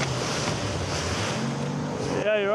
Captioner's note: boat motor roars